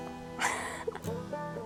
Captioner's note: giggling